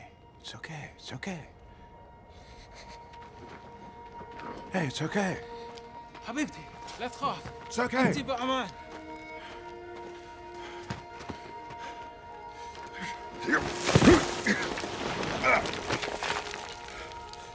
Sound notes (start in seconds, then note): 6.5 speaking in foreign language; 13.7 grunting